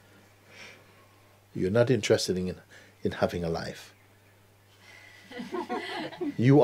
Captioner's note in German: Lachen